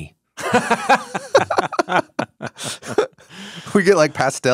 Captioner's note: both laughing